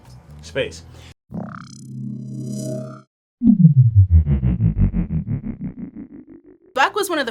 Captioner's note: ominous hum